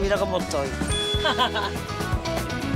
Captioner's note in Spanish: Risas